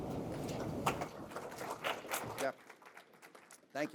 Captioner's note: audience applauding